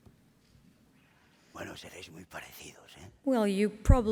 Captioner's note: speaking spanish